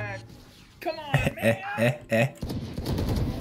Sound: evil laughter

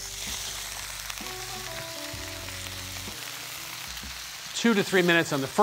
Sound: sizzling

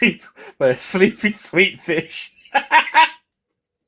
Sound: laughing

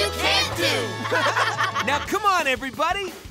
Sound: laughing

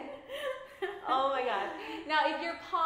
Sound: laughs

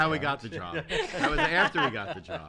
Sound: laughs

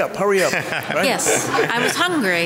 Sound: laughs

